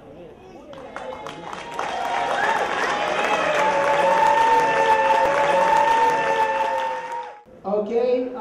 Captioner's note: applause